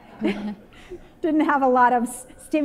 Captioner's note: slight laughter